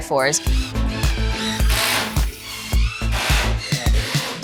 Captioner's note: drill buzzing